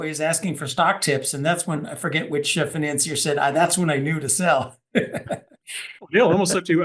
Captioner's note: laugh